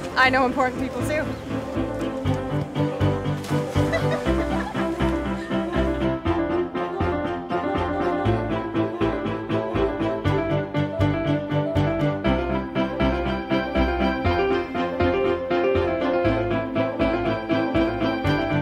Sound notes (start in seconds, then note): 3.4 water splashing; 5.4 upbeat music continues